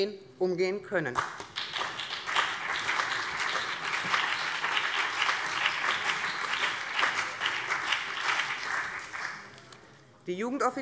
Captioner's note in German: Beifall BÜNDNIS 90/DIE GRÜNEN und vereinzelt CDU